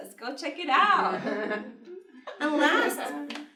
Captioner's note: laughs